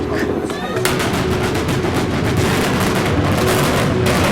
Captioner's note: rapid explosions